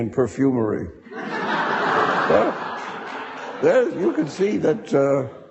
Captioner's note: audience laughing